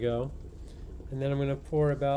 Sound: water boiling

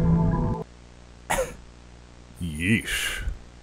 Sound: coughs

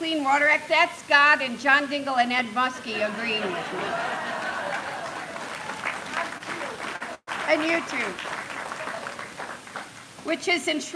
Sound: applause; laughter

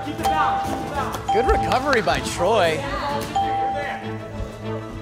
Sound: ding

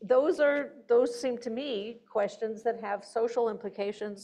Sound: none

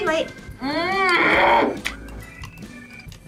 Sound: growls

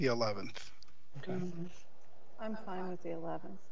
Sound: voice muffled

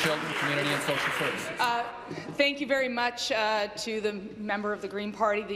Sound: applause

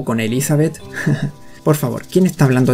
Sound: haha

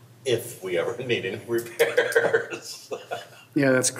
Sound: laughs

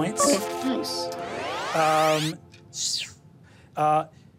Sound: air whooshing

